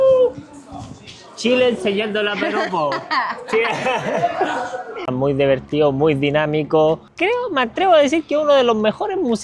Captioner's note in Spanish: risas